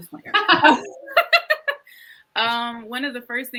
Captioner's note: both laugh